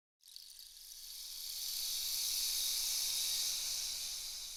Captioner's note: insects chittering